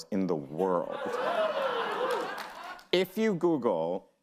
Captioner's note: audience laughs